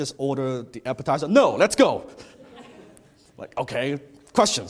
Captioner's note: audience laughs